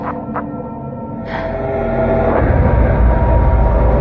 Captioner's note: sighshs